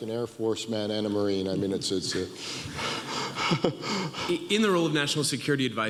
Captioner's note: laughs